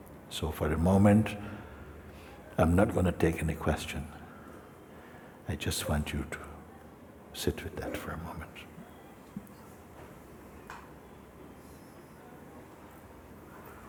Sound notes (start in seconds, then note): 10.2 silence